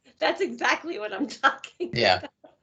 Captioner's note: laughing